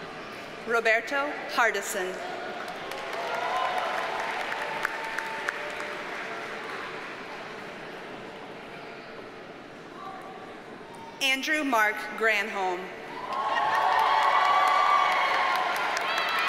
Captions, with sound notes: Roberto Hardessen. (audience cheers and applauds) Andrew Mark Granholm. (audience cheers and applauds)